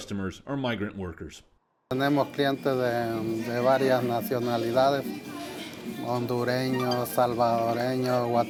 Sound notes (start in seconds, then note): 1.6 speaking in Spanish